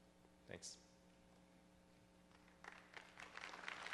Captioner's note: voiceover; applause